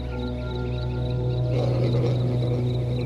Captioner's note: growling